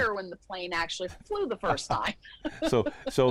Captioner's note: laughs